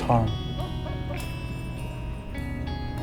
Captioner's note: dog barking